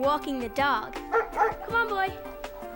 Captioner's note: barking